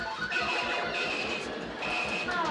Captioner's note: video games beeping